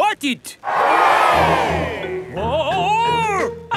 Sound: crowd cheers

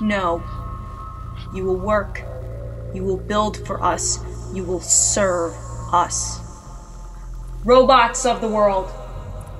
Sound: loudly, to robots

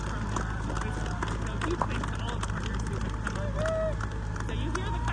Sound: crowd continues to clap and cheer

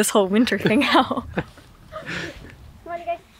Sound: both laugh

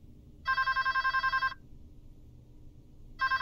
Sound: phone rings

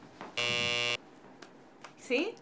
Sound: buzzer sounds

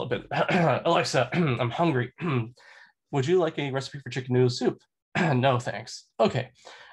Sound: cough

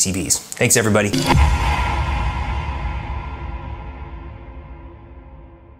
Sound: graphics whooshing

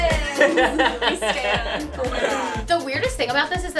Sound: laughing

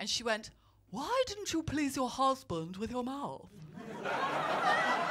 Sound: posh accent; laughter

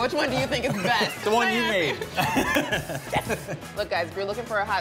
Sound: laughs

